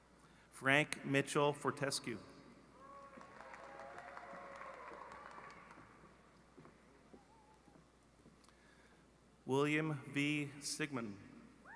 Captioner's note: appuse